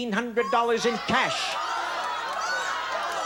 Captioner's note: audience shouting